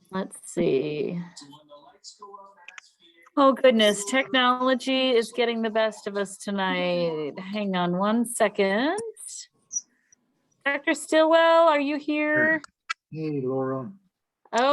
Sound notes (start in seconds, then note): 2.8 voice fades